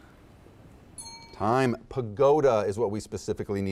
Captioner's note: bell rings